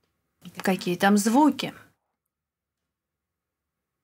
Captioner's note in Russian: пауза